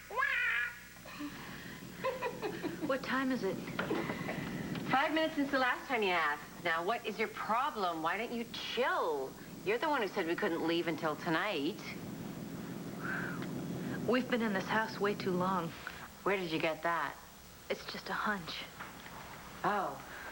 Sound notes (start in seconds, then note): 2.5 allison laughs